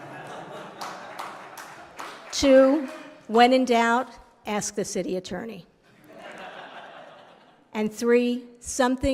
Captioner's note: laughter